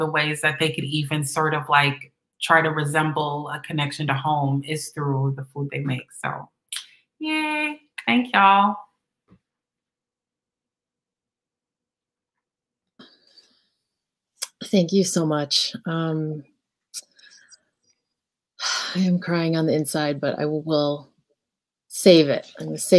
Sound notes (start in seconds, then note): 11.9 pause